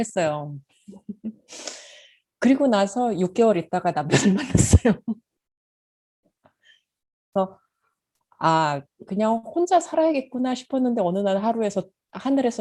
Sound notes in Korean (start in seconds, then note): 8.4 웃음